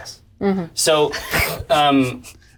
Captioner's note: all laugh